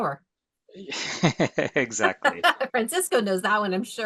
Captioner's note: laughs